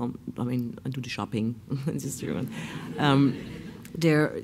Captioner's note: laughs